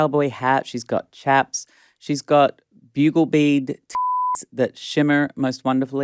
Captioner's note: beep